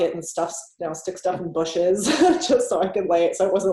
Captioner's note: laughs